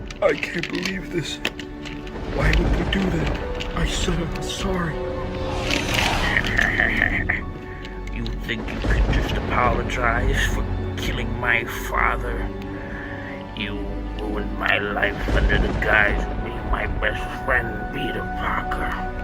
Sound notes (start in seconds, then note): 5.0 wush; 6.3 evil laughter